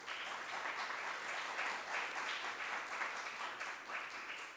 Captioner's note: audience applauding